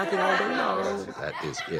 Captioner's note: audience laughs